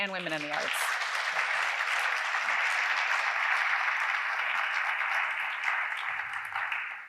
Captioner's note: audience applause